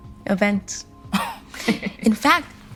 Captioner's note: scoffing; Princess scoffing